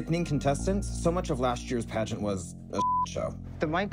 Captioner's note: beep